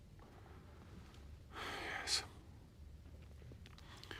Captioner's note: menghela napas